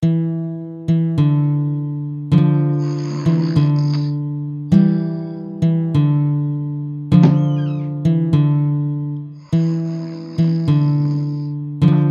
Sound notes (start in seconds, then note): 2.7 snoring; 9.4 snoring